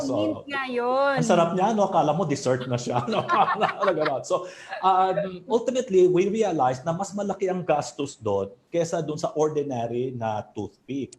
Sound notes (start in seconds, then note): 2.9 laughs